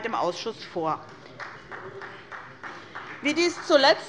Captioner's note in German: Beifall bei Abgeordneten der SPD